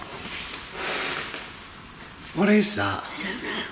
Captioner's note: grating hiss